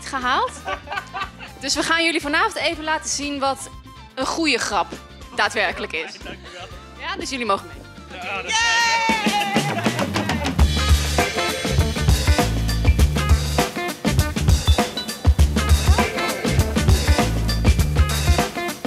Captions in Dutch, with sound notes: gehaald. [Gelach] Dus we gaan jullie vanavond even laten zien wat een goede grap daadwerkelijk is. - Da's fijn, dankjewel! - Ja? Dus jullie mogen mee! [Gejuich]